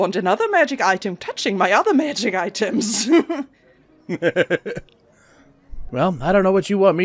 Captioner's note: laughter